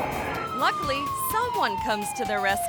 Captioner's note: siren wailing